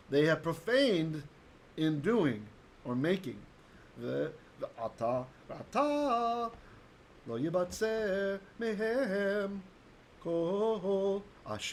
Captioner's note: Hebrew